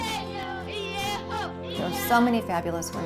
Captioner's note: chanting